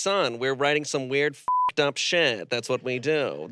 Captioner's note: beep